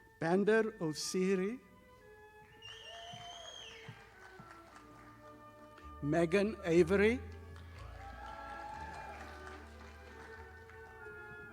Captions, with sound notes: Bander Assiri. (audience applauding) Megan Avery. (audience applauding)